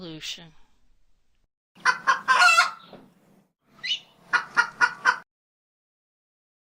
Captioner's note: chicken Clucking